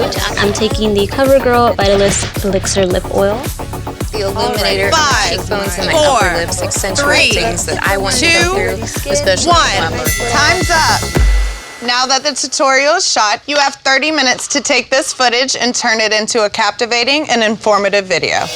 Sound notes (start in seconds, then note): 10.3 bell ringing